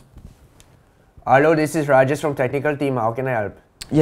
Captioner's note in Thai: สำเนียงอินเดีย